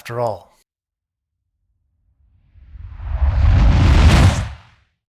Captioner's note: rocket Lands